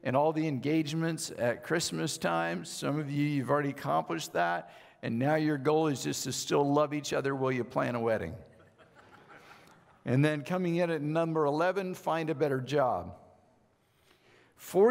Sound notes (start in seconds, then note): 8.6 audience laughing